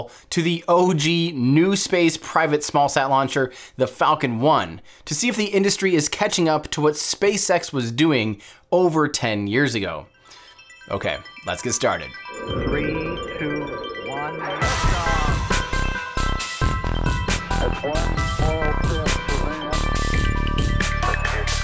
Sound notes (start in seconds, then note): 12.6 voiceover; 14.7 bright upbeat music